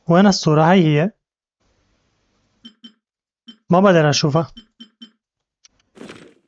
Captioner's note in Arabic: تدق الساعة